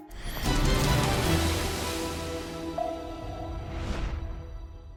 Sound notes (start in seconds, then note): 1.4 air whooshes